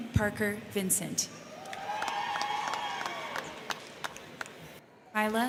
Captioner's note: crowd cheering; crowd clapping